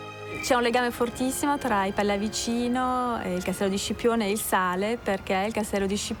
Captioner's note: speaks in foreign language